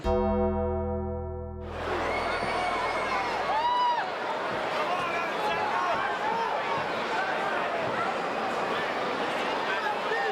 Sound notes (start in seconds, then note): 0.0 dramatic music; 1.6 crowd chattering; 1.6 crowd cheering